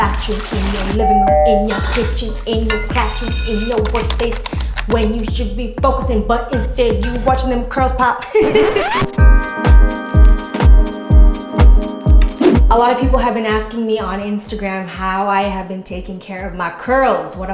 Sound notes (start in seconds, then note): 8.2 laughing; 8.2 upbeat music